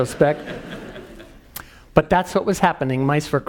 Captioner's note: laugh